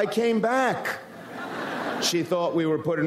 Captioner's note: audience laughs